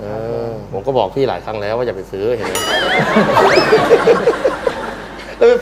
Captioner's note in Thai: เสียงหัวเราะ